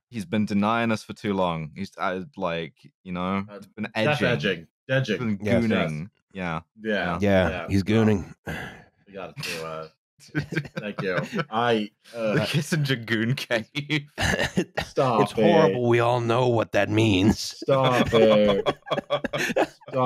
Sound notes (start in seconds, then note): 10.3 chuckles; 14.2 laughter; 17.6 laughter